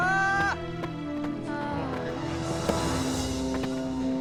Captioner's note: moaning